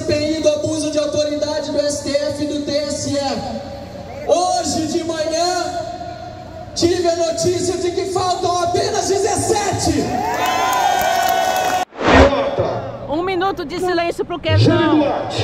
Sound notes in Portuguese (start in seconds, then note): 10.3 Apluausos